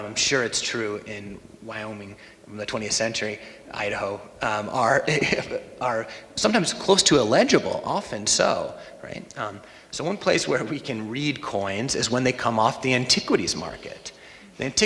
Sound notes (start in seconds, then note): 5.0 laughs